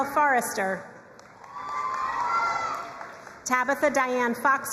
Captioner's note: crowd cheering and applauding